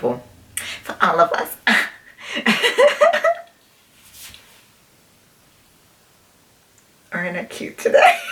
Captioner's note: laughs